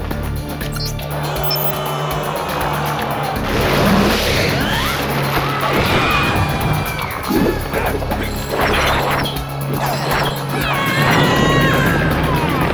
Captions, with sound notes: I feel their pain. [dark music] [crowd booing] [screaming]